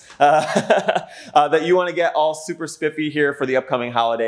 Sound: laughing

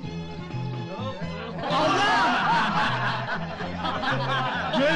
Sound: laughter

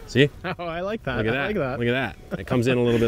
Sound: chuckles

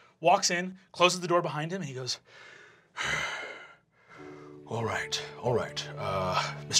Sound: sighs

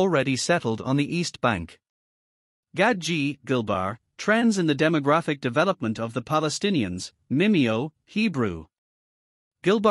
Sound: Hebrew

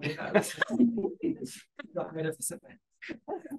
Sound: all chuckling

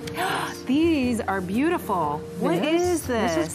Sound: gasps

